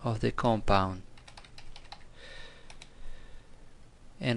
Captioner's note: typing